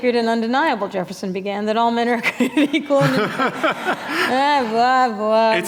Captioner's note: laughter